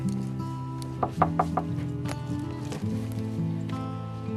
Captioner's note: KNOCKlNG AT DOOR